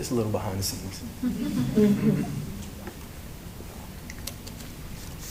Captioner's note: laughter